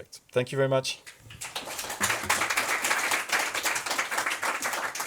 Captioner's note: attendees clapping